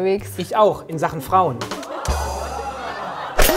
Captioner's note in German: Gelächter